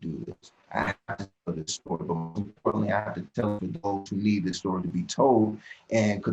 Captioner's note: disc scratch